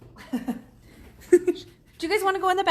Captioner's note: laughs